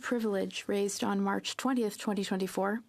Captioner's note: speaking French